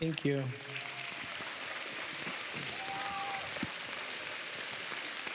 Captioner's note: cheers, applause